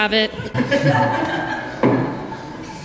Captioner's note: laughter